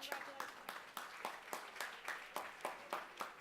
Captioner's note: applause